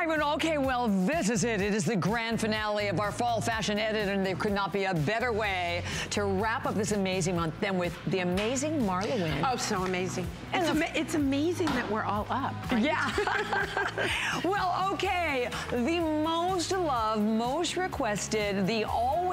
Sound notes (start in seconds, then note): 12.9 laughter; 13.0 laugh